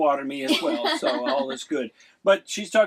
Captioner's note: laughing